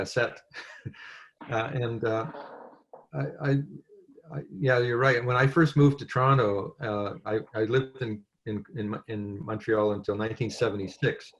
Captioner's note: french